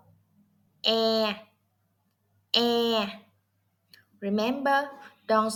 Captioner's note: Vietnamese